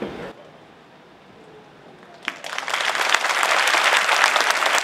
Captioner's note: audience applauding